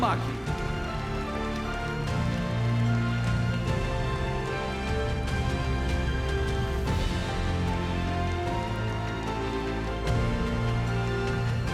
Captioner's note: applause